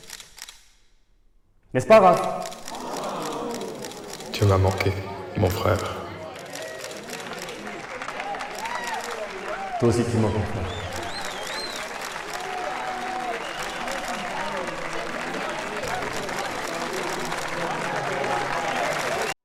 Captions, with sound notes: Isn’t that right, Raph? Hey, brother. I really missed you. [Applause] I miss you too. [Applause]